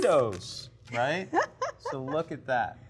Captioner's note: laughs